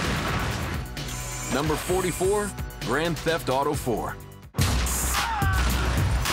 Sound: gunshot

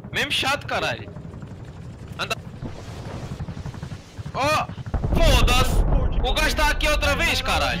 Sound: helicopter sounds

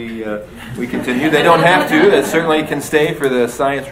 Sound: audience laughs

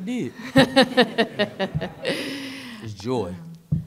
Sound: laughs

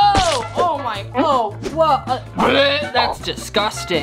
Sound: gags

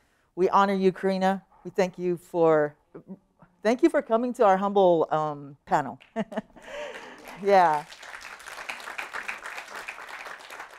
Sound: applause

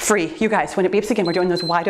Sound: timer beeps

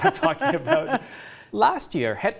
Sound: laughs

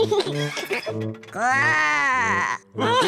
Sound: laughs; growls; all laugh

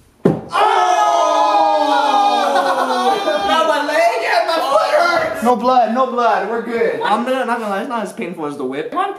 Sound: thump; all exclaiming

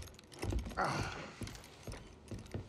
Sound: irritated sigh

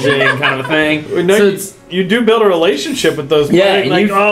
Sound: laugh

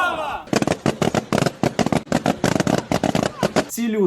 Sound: balloons bursting sound

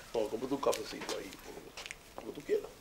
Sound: soft voice

